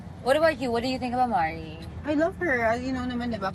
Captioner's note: none